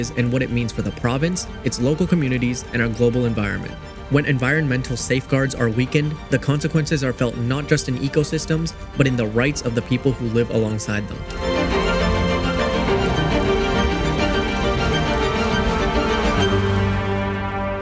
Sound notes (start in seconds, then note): 12.7 fire crackling